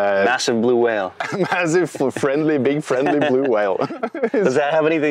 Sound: chuckles

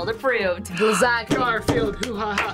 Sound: gasps

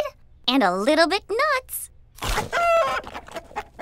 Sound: clucks like a chicken

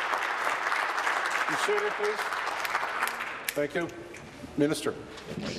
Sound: applause

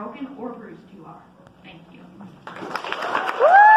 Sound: claps

